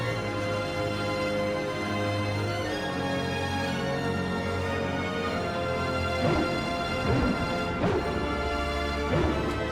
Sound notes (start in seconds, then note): 6.2 wooshing